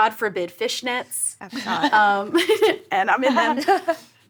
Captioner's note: laughs